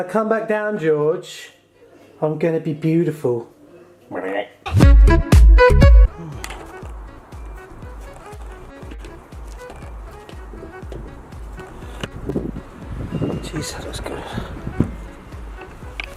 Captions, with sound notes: When I come back down George, I'm gonna be beautiful. (fast tempo music) (wind sound) Geez that looks good.